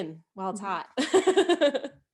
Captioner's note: laughs